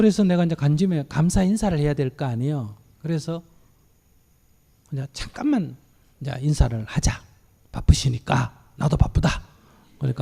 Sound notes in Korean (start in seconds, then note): none